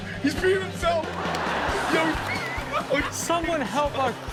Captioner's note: audience laughs; men laughing